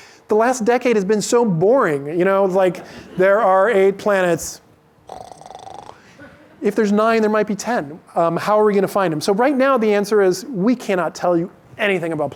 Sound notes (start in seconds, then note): 5.1 snores